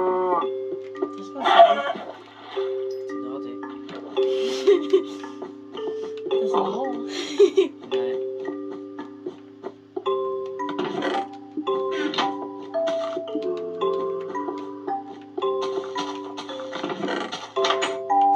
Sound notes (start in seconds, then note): 4.3 laughs; 7.1 laughs; 9.1 music and game sound